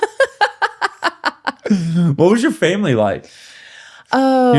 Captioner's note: laughing